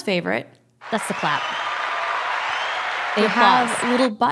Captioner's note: applause